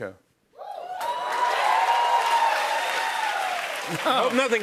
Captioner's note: cheers and applause